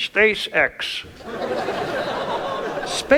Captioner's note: audience laughs